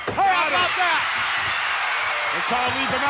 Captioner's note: audience cheering